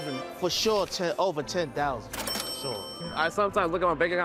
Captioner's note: registry ringing